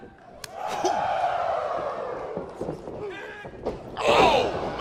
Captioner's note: crowd cheering